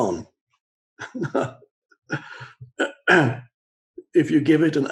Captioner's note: chuckles